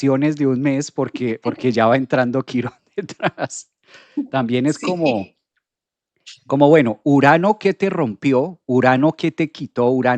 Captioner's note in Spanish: risas